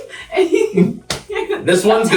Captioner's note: patients laughing